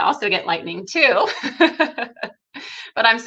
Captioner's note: laughing